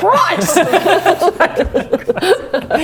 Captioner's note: engorged laughter